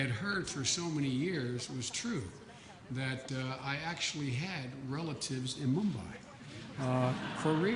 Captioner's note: laughter